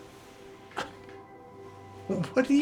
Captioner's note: Florio exhales in surprise